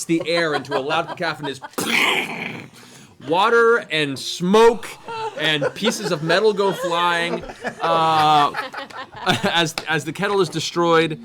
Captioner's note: explosion sound